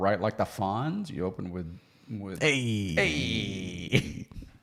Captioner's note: imitates voice